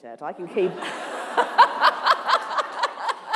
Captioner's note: laughter